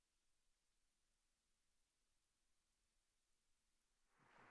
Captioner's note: applause